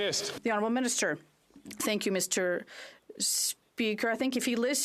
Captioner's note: some Applause